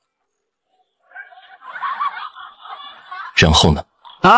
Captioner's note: bursts out laughing